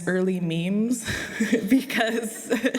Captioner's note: laughter